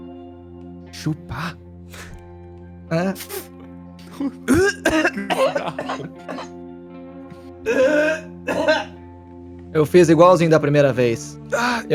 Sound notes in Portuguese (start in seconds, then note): 4.0 tosse